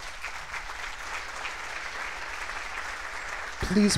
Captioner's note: applause